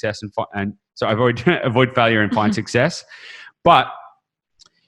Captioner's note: chuckles